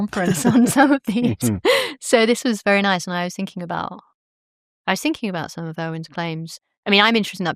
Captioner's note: laughter